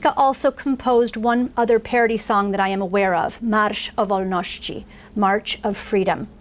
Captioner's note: foreign language